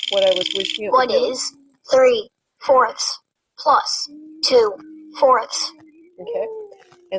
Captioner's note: voiceover